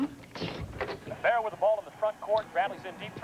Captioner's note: basketball game plays